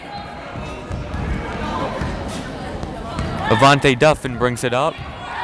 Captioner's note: chattering